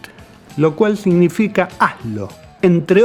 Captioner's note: in spanish